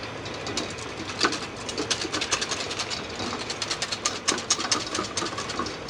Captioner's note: whisking ingredients